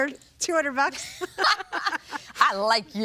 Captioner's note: laughing